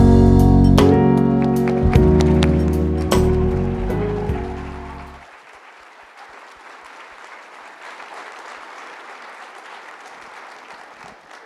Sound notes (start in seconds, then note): 2.4 audience applauding